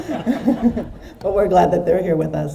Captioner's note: audience laughs